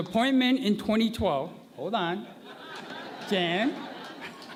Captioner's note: laughter